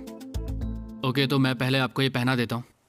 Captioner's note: speaking mandarin